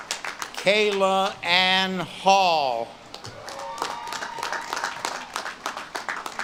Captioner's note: audience claps and cheers